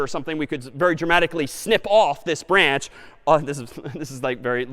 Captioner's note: laughs